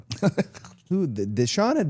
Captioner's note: Chad laughs